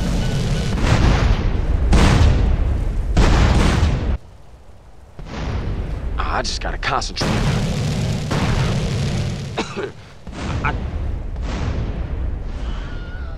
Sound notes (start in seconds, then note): 9.5 cough; 12.5 Wilhelm scream